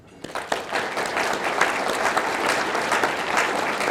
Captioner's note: audience clapping